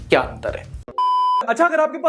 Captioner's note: beep